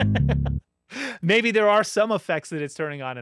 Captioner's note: laughs